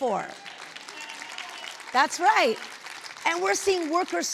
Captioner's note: audience applauding